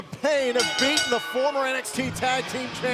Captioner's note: bell ringing